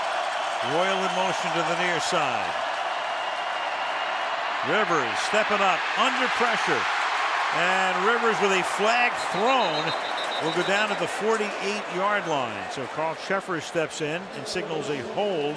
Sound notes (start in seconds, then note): 9.2 whistle